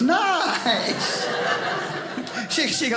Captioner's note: audience laughing